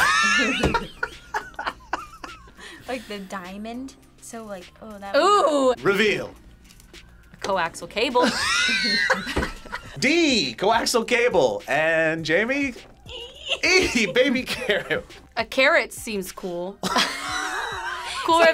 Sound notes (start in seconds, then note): 0.0 laughs; 8.2 laughs; 17.3 both laugh